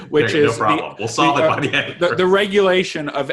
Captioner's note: laughing